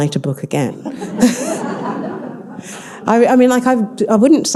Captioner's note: all laughing